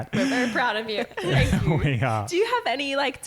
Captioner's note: chuckles